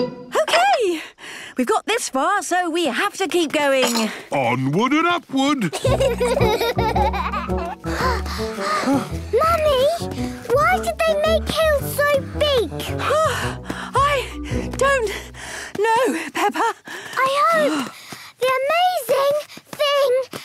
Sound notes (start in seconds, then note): 5.7 children giggling; 7.8 panting; 13.0 panting